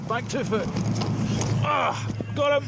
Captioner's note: lifeboat engine whirring